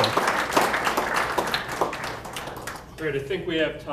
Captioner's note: applause